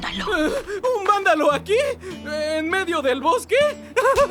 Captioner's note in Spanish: Nerviosamente; Risa nerviosa